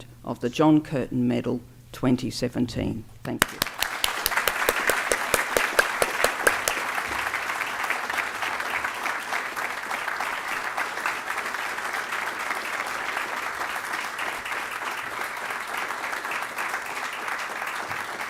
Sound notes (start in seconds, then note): 3.3 applause